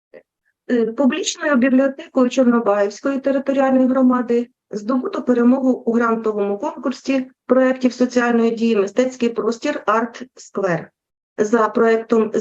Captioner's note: foreign Language Spoken